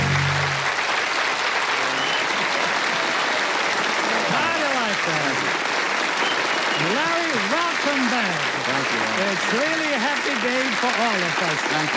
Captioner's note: applause